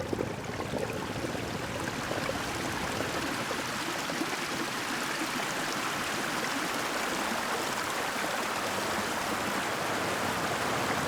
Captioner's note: water river sounds building up to a torrent